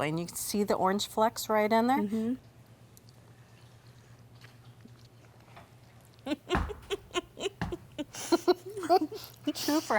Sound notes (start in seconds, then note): 2.5 both chewing; 6.2 both laughing; 6.4 foot stamping